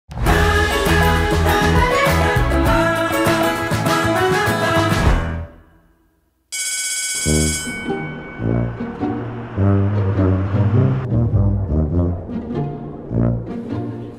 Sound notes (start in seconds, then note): 6.5 school bell rings